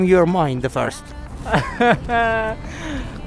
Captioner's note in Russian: смеется